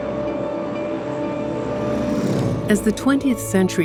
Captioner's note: plane engine